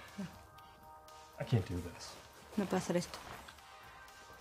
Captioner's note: speaks in english